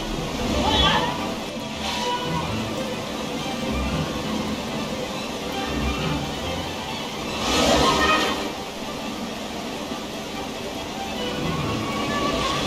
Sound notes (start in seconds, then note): 0.0 upbeat piano music; 3.4 goonies screaming; 6.4 upbeat piano music